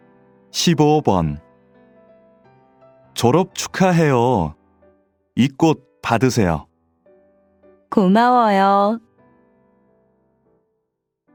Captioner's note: Korean audio